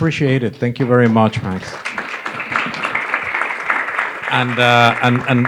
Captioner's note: applause